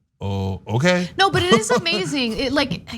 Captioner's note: laugh